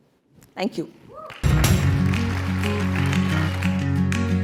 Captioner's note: applause